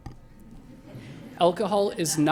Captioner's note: laughter